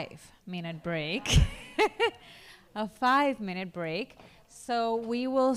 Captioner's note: laughs